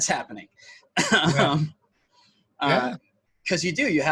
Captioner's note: laughs